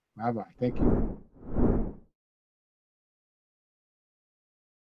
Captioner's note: whooshing sound